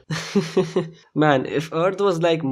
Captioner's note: chuckle